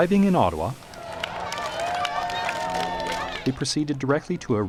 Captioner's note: crowds cheering